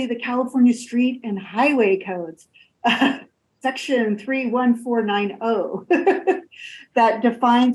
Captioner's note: laughs